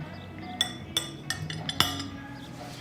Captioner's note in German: Geschirrklappern